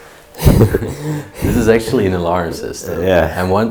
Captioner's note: chuckles